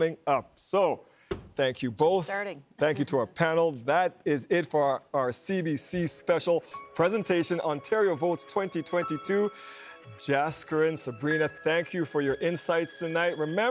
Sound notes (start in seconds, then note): none